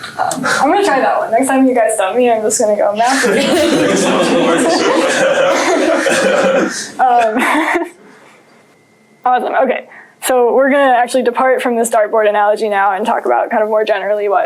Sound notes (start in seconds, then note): 3.1 laughter